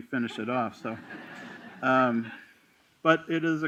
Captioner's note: laughter